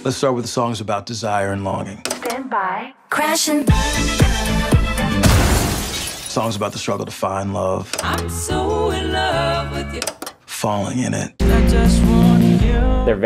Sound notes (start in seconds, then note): 5.2 glass breaking; 10.0 clicking